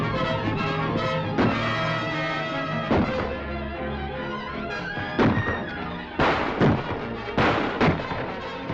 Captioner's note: gunshots